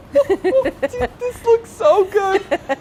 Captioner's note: laughing